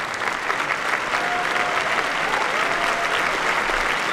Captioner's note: applause